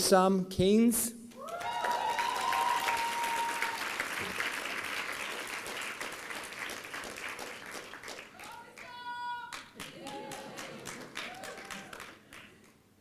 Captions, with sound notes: Waysom Canes. (applause) (inaudible cheering)